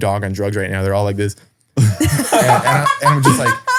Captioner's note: laughs